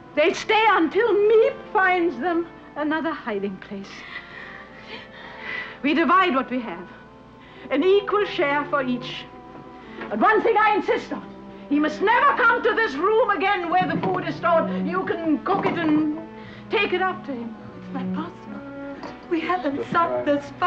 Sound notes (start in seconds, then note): 5.4 sighs